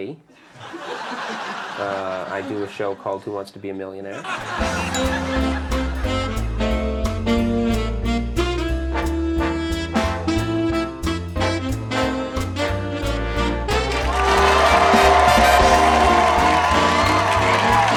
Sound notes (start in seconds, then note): 0.5 laughing; 5.2 jazz music; 14.0 cheering